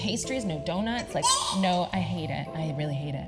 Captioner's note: gasps